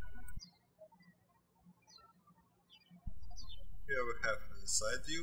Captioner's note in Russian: птички щебечут